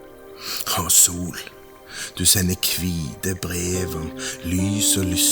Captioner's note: Voice is reading a Norwegian poem by Kolbein Falkeid